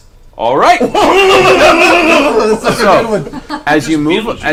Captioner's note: all laugh